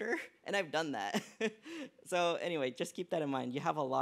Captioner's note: laughs